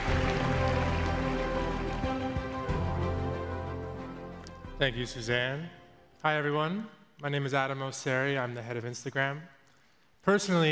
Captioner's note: applause